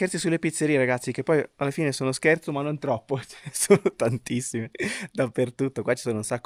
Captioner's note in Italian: risate